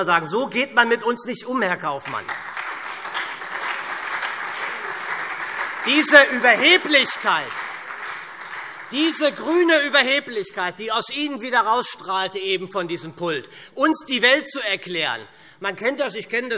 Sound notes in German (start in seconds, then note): 3.9 Beifall SPD und Freie Demokraten